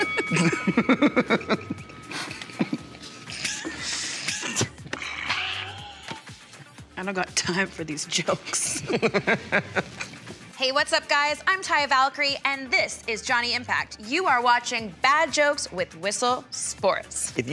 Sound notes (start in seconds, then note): 0.0 bell dings; 0.0 both laugh; 2.0 laugh replays in slow motion; 8.6 both laugh